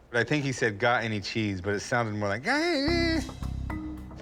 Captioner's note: babbling